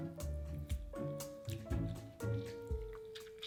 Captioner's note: squeezing lemon